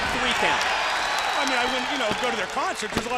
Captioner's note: crowd cheering